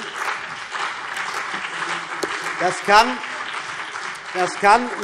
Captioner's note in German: Beifall CDU und BÜNDNIS 90/DIE GRÜNEN